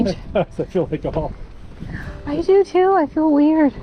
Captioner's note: laughs